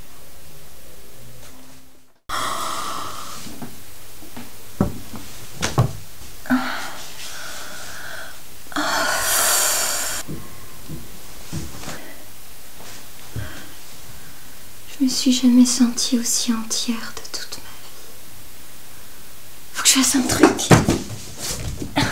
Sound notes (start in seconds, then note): 2.1 loud breathing